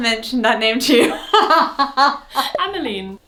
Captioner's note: laughs